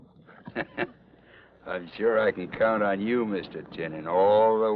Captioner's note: chuckles